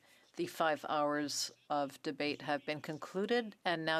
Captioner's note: speaking French